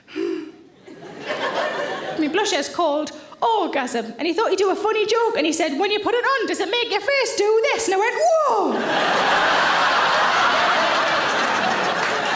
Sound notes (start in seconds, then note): 0.7 audience laughing; 8.6 audience laughing